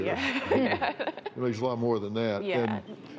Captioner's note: laughs